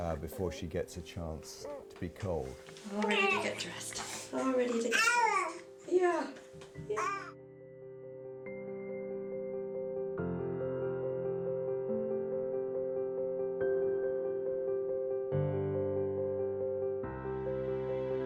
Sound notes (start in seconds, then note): 4.4 baby cooing; 7.6 soft piano music